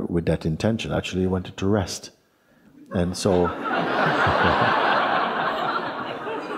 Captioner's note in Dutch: gelach